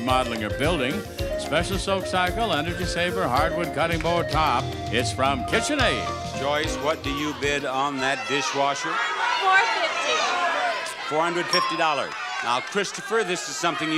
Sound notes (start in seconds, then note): 8.8 audience shouts incoherently